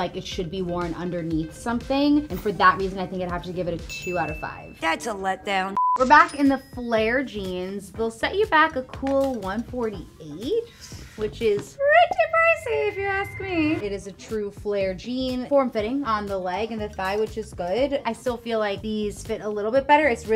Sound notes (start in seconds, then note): 5.7 beep; 6.4 cash register ring